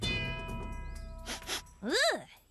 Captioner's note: Izzy Sniffing